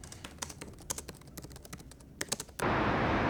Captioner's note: keyboard clicks; city sounds